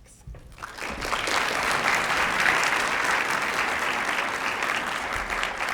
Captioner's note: applause